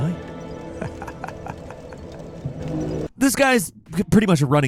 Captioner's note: brooding music; Crestfallen Warrior laughing